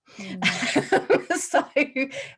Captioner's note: laughter